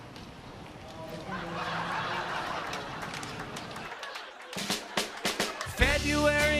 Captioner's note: laughter